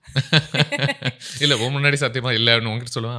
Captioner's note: laughing